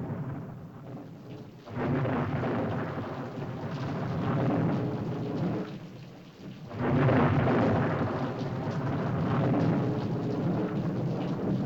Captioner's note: thunder rolls; rain patters; thunder rolls